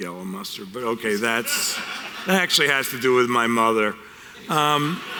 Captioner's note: audience laughter